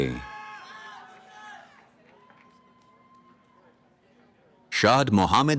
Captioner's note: cheering